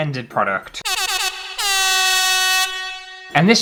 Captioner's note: air Horn